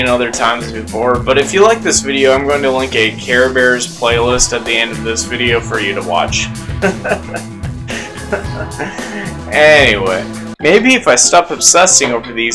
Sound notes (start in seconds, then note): 6.6 laughs awkwardly